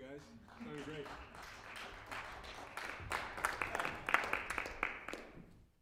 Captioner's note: applause